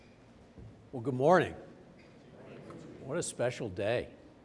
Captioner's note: crowd